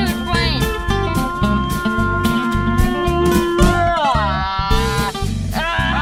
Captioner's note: imitated airplane flying